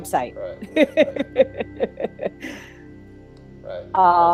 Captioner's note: laughs